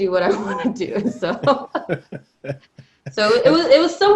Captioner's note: laughing